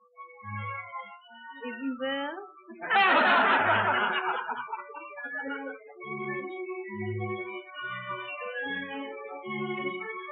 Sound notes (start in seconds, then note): 2.7 laughter